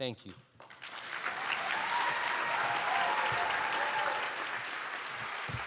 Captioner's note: cheers and applause